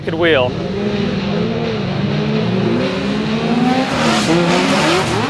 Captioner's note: car engines roar